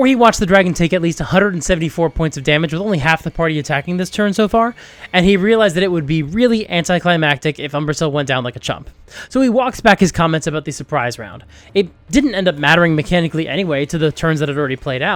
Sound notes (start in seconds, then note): none